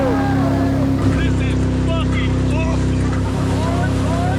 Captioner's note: cheering